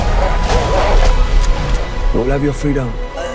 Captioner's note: dog growling; dog barking